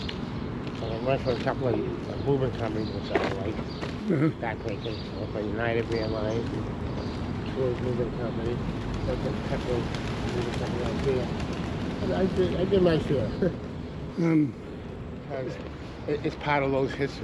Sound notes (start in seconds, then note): 8.7 sounds of pigeons flying